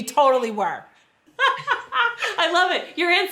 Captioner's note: laughs